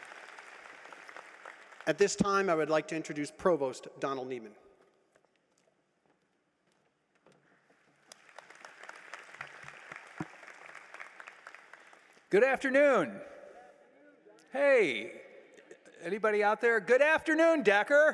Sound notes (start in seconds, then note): 0.7 applause